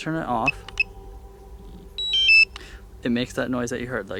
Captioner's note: brief beeping